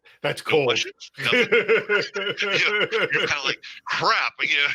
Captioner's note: laughter